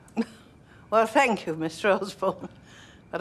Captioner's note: chuckles